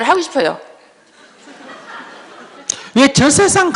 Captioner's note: audience Laughter